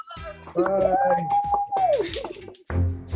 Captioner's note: cheering and clapping